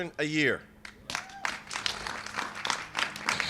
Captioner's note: applause